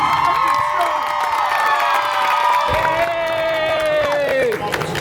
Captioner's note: guests cheering and applauding